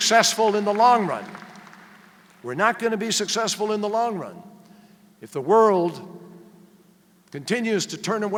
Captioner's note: applause